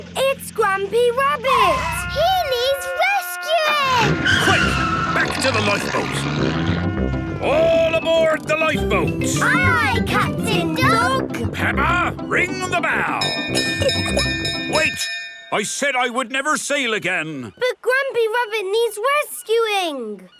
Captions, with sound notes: - It's Grampy Rabbit! - He needs rescuing! - Quick, back to the lifeboat! All aboard the lifeboat! - Aye aye, Captain Dog! - Peppa, ring the bell! (bell chimes) Wait! I said I would never sail again! - But Grampy Rabbit needs rescuing!